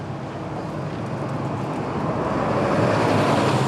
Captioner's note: bus rumbling